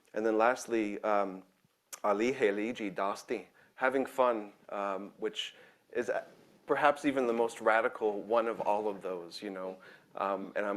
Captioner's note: speaking in own language